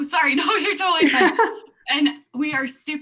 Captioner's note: laughs